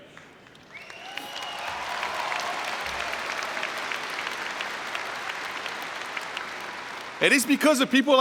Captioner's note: cheering and Applause